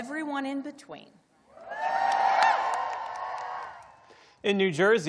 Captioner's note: cheering